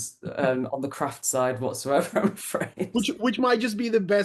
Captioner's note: laughs